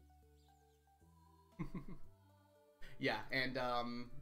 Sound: chuckles

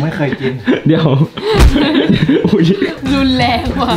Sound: kick

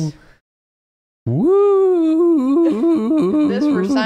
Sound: voice cracks

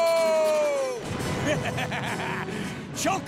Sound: laughing

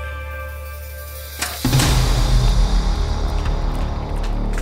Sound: opens door angrily

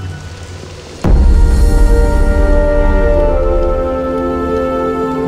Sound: raining

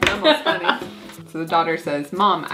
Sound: grandma laughing

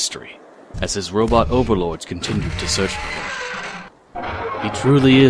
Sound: moving mechanical parts

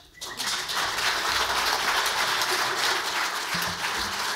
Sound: audience applauds

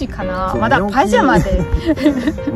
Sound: laughs

